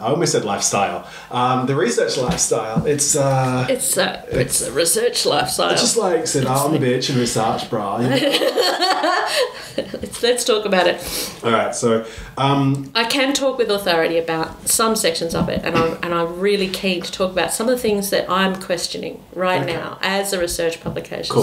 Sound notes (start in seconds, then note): 6.2 bad Californian accent; 8.0 laughs